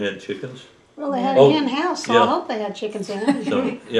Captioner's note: laughter